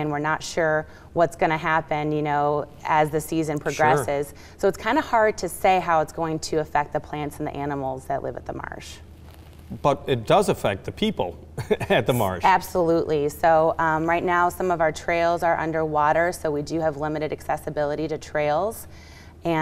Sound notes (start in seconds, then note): 11.6 chuckling